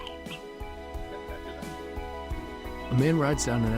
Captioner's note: laughing